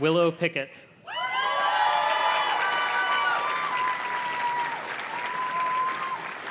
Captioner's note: audience cheers and claps